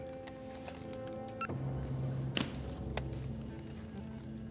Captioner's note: phone beeps